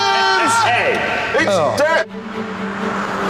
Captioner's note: engine dies